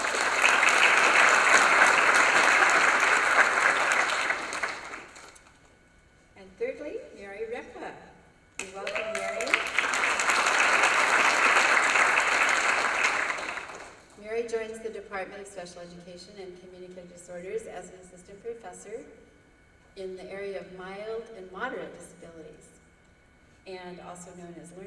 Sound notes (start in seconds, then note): 0.0 applause; 10.2 applause